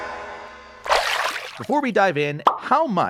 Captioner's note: water swooshing